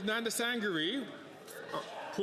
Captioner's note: speaking French